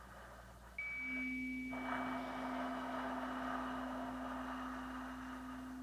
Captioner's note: chimes ringing continues; slow breathing continues